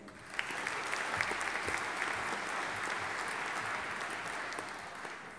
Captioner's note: audience applauding